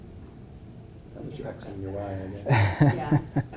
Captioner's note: laugh